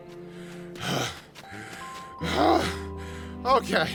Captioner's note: Ramsey panting